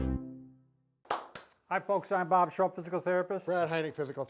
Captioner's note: clapping